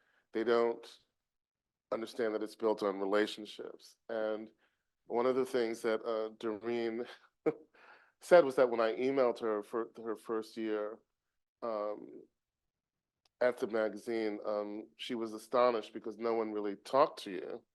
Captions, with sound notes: They don't understand that it's built on relationships. And one of the things that Doreen [chuckles] said was that when I emailed her for her first year at the magazine, she was astonished, because no one really talked to you.